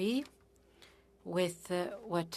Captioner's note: speaking French